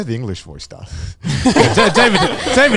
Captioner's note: all laughing